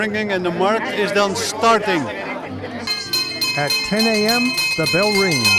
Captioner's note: bell sound